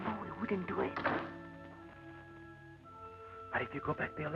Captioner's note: door thuds